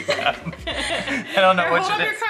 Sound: laughing

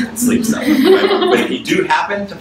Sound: audience laughs

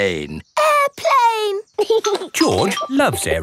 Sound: giggling

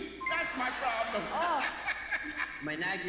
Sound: laughs

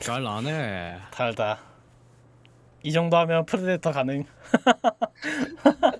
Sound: laughs

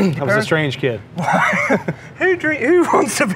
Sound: both laugh

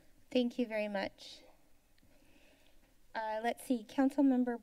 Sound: silence

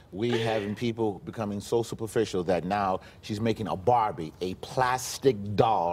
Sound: laughter

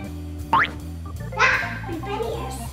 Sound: boing

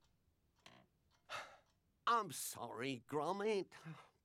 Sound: sighs

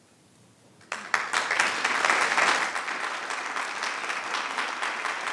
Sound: people clapping

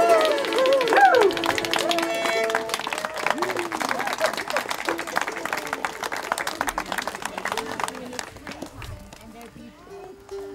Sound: applause

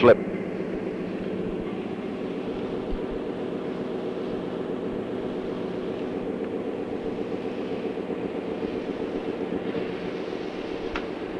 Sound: sound of the train moving

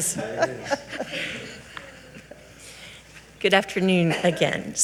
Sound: giggling

